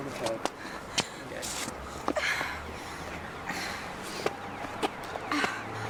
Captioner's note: distant sirens wailing